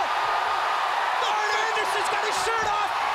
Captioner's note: crowd cheering